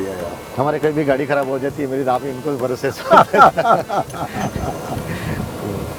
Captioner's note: laughs